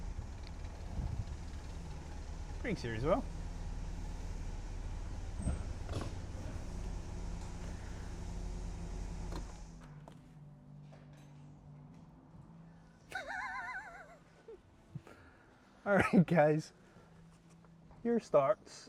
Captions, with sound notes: Craig's here as well [LAUGH] Alright guys, here starts